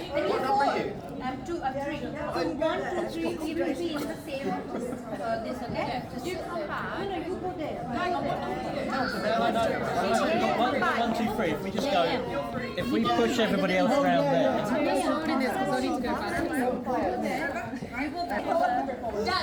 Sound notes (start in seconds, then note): 7.0 crowd chattering; 18.0 crowd chattering